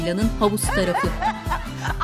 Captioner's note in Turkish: Gülme sesleri